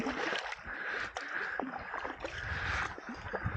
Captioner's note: paddling